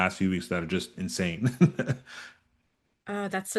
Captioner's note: chuckles